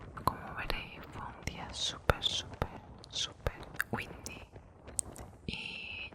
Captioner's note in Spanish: windy